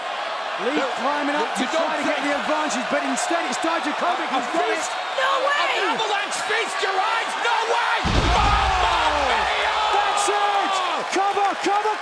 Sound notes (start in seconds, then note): 3.6 crowd cheering